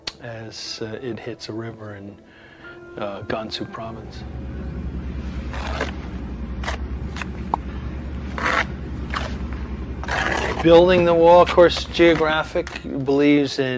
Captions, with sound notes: as it hits a river in Gansu province. (wind whooshing) (brick trowel scraping) Building the wall, of course geographic believes